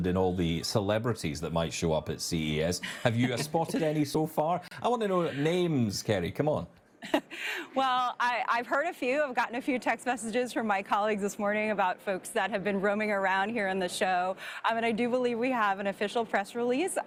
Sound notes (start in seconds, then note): 2.8 chuckling; 7.0 chuckles